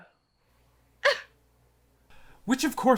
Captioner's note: scoff